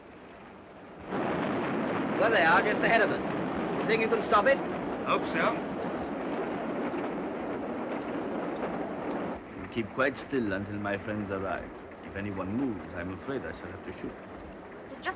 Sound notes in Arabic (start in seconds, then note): 0.0 قطار يهدر بهدوء; 1.0 هدير القطار; 6.7 هدير القطار